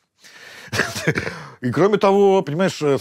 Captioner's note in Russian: усмехается